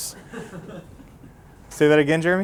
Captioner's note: chuckling